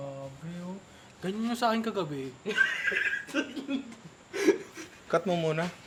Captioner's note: laughs